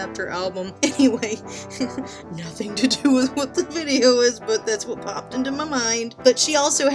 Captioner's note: laughing